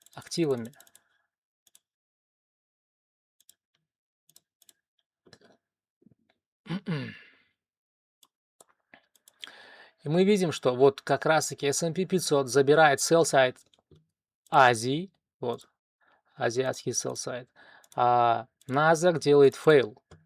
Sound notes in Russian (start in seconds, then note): 5.1 откашливается